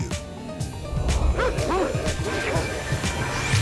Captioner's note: dogs barking; energetic music